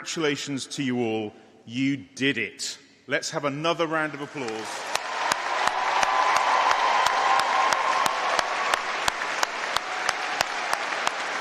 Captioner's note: applause